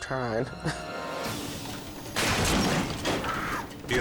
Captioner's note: chuckles